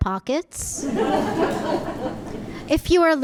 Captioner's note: audience laughing